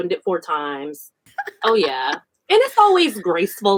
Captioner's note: laughs